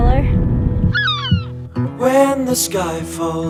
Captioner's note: bird squawking